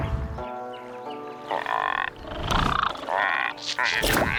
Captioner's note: croaking